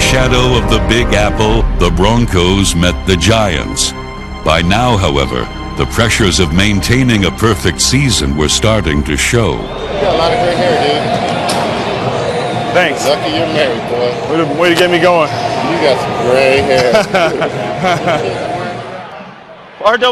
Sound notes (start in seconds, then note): 16.6 laughs